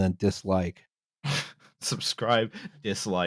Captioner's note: scoffs